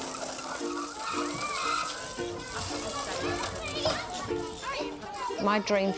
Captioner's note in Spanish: Música de ukelele; ruido de niños